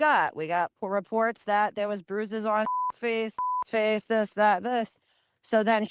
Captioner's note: beep